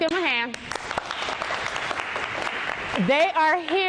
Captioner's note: applause